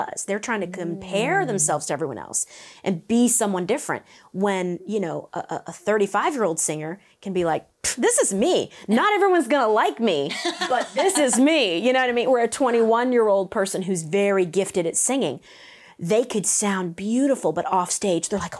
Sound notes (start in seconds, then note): 10.2 laughs